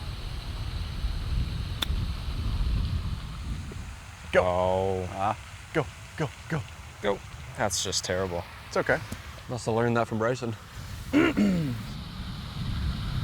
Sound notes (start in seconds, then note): 11.1 clears Throat